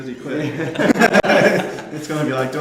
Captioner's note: men laughing